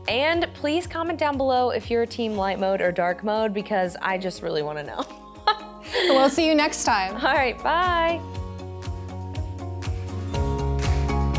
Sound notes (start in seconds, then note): 5.9 laughs; 8.5 uplifting music